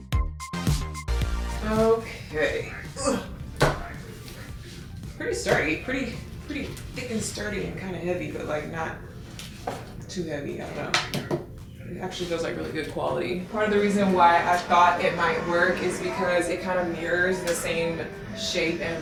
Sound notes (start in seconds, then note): 2.6 grunting